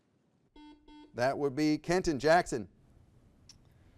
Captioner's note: buzzer beeps